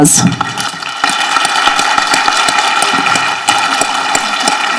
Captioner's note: people applauding